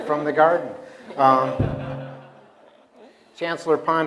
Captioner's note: laughter